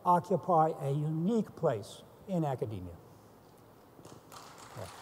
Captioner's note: applause